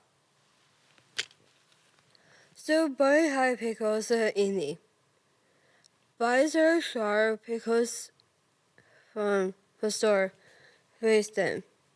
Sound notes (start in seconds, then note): 0.4 rustling; 0.9 click